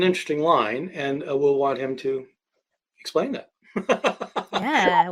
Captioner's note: laughing